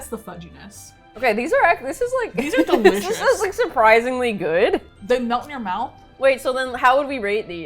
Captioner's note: laughs